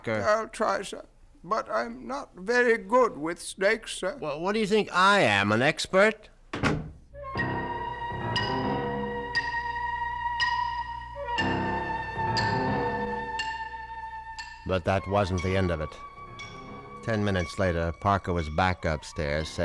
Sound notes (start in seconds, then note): 6.5 door closes; 8.4 dramatic music plays